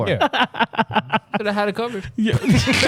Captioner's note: laughing